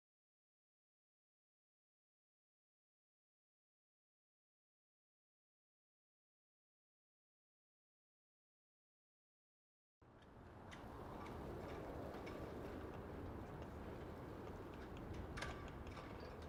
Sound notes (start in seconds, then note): 10.1 wind blowing; 10.2 gentle, metallic clanking